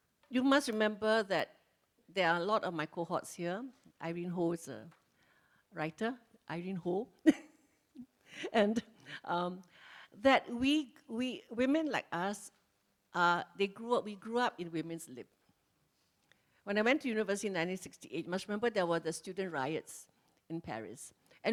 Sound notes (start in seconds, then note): 7.8 laughs